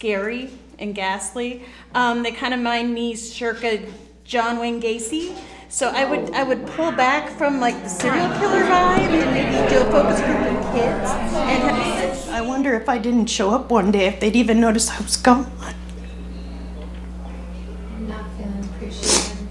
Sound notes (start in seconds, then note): 12.1 crying